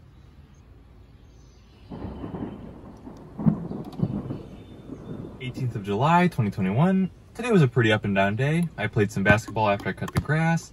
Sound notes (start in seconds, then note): 1.8 thunder rumbles